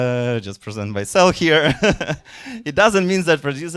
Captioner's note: chuckling